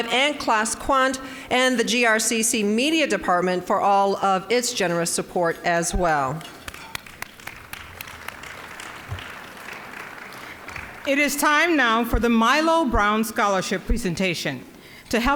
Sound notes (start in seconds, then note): 6.6 applause